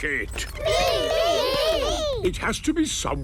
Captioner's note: calling out in turn